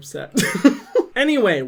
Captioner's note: laughing